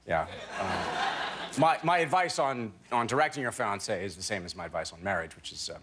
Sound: laughter

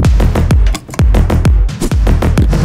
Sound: knot cinch; scooter engine rev

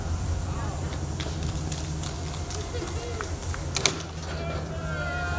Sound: crowd clapping

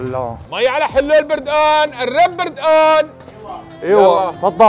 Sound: shouting popular Syrian selling words

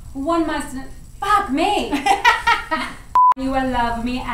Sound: laughter

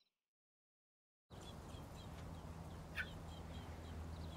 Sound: birds chirping

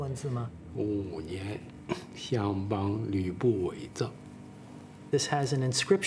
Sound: speaking in foreign language

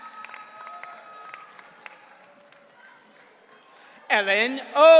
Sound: audience cheering

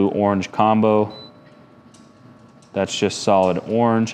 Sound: firebox beeping

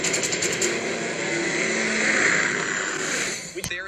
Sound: helicopter whirring

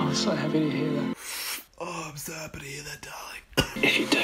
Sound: coughs

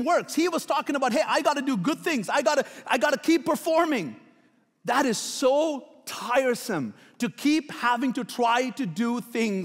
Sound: none

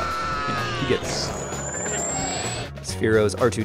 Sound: electronic screaming; lightsaber zapping

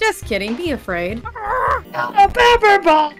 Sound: light growl

